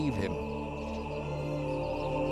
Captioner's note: men chanting